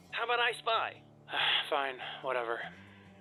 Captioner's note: sigh